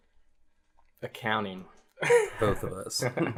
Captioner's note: laughs; laugh